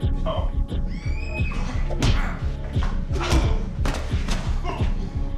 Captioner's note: Robin screams